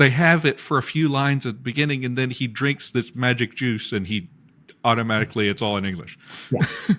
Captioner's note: laughs